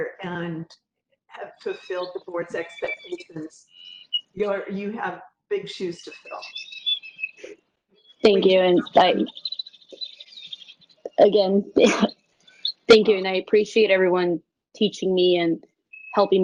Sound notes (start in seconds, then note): 5.5 birds chirping; 10.5 sneeze